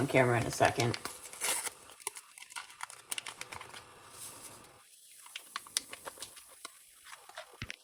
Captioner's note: stovetop noises